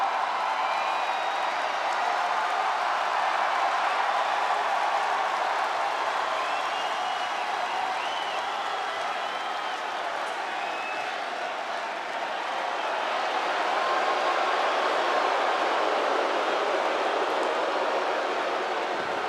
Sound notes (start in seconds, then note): 0.3 audience continues cheering; 13.1 audience jeers